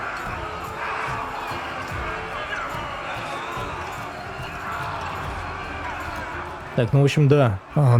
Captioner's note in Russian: крик